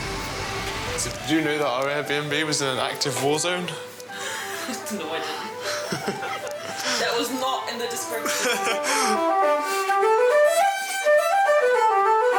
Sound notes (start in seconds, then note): 4.2 laughs